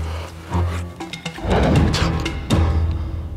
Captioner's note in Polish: dźwięk odkrywania płachty